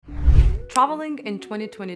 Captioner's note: screen whooshing